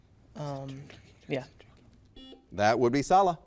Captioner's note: buzzer beeps